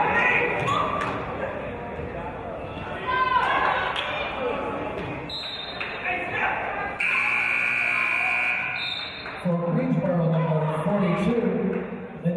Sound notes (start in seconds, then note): 5.4 referee's whistle; 7.0 buzzer; 9.0 referee's whistle